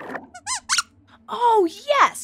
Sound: squeaks squeaks

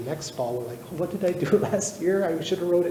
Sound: chuckles

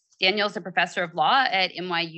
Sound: none

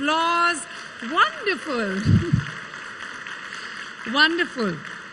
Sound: audience claps

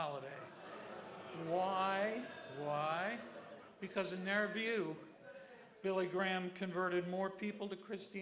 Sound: crowd booing

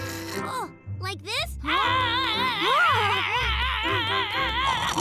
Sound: snores; hollering; loud rumbling snore; all screaming

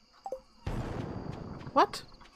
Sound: boom

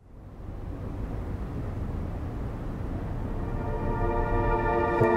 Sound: city noise

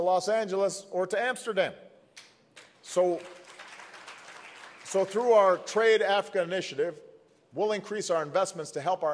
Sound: applause

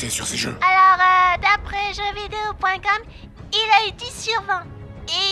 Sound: Childish voice

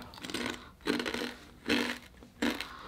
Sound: crunch

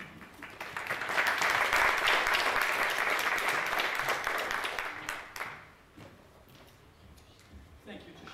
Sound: applause

